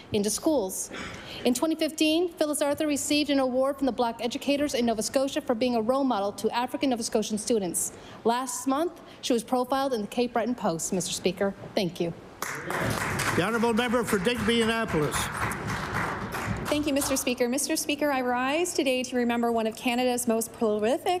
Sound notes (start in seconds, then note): 15.9 applause